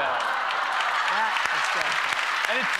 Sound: cheers and applause

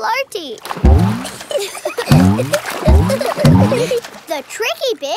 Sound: giggling

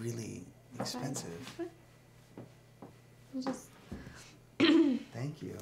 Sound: clears throat

